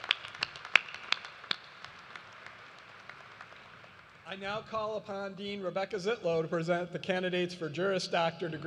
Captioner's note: applause